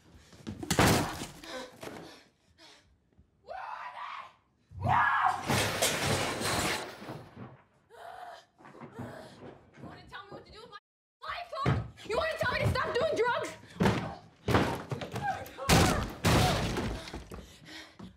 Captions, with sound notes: - (kicks door) - Where are they! (Screams) - You want to tell me what to do with my life, huh? You want to tell me to stop doing drugs? (kicks door)